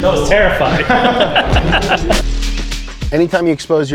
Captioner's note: laughs